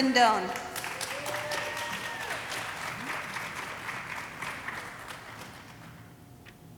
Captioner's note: audience cheering and applauding